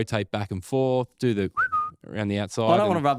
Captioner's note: whistle